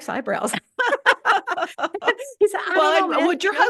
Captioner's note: laughter